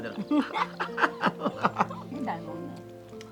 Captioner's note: both laughing